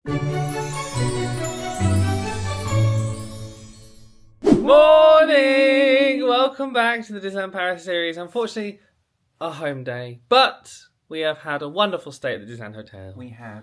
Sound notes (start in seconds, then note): 0.1 magical intro music; 4.4 screen wipe whooshes